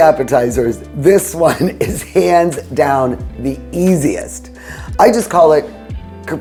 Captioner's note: chuckles